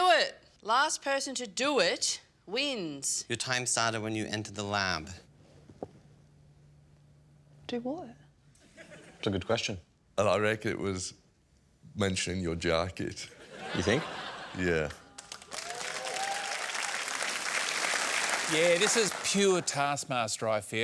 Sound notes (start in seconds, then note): 15.1 applause